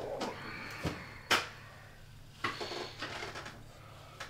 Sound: man gasping

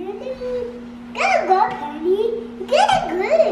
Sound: baby talk

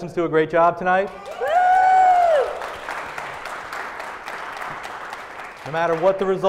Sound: applause

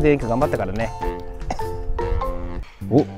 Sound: laughs

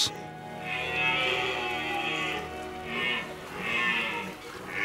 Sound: red deer roars

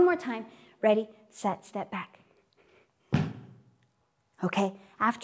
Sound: stamps

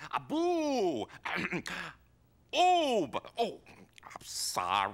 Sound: clears throat

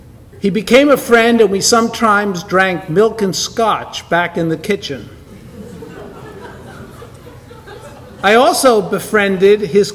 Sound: audience laughter

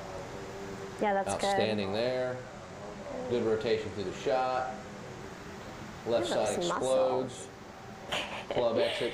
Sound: laughs

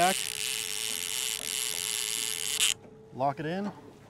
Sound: reel spinning

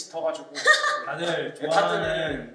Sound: laughs

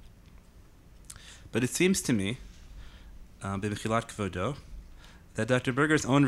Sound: speaking in Hebrew

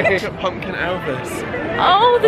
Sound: laughing

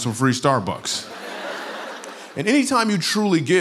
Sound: laughter

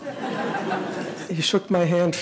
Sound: audience laughing

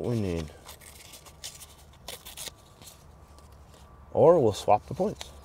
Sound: sandpaper ripping

